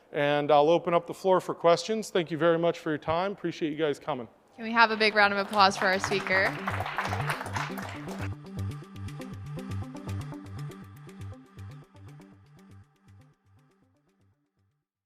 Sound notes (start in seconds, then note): 6.8 audience applauds; 8.3 soft music